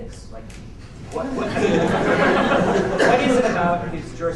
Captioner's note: laughter